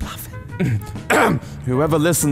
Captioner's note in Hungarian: megtisztitja torkát